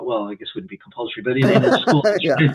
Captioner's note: laughs